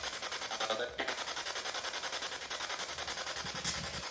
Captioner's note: disembodied voice